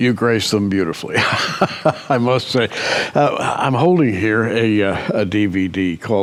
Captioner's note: chuckles